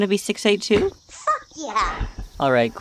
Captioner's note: Franch’s high pitched voice